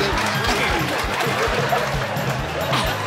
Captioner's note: audience laughs